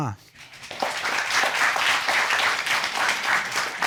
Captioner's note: applause